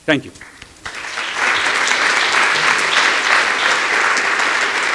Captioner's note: applause